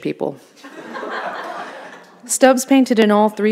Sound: audience laughing

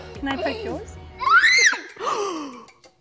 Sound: laughing; shrieks; gasps

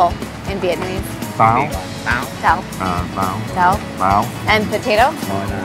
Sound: all speaking in Vietnamese; all speaking in Vietnamese

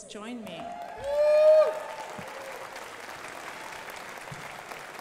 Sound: crowd applauding

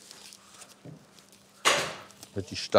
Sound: loud stapling

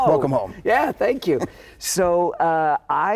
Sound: chuckling

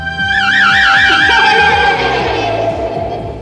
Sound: laughs

